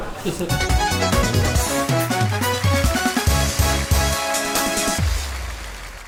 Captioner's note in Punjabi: ਤਾੜੀਆਂ